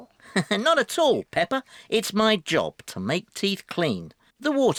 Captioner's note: laughs